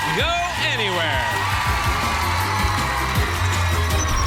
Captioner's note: cheers and applause